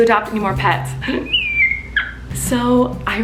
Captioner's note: screeches